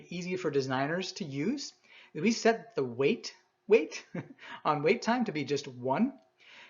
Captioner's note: chuckles